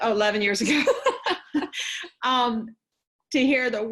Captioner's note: both laughing cheerfully